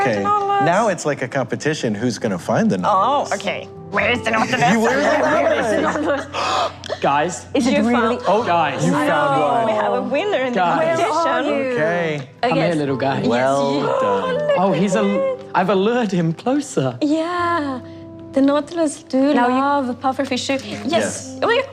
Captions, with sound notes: Okay, now it's like a competition. Who's going to find the Nautilus? Oh, okay. Where's the Nautilus! [Laughing] [Gasps] -Guys? -Is it really? -Guys? -No! -We have a winner! -Guys! -Where are you? -Okay. -Come here, little guy. -Well done. Oh, he's, I've allured him closer. Yeah. -The Nautilus do love a Pufferfish. -Yes.